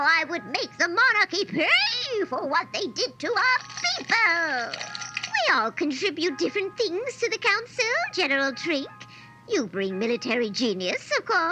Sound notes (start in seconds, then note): 3.4 shakes her rattle